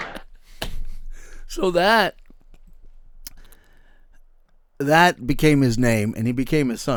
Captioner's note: audience Laughing